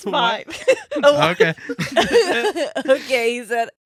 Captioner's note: laughing